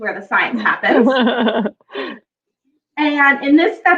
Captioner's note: laughs